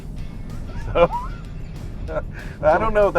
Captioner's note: laughing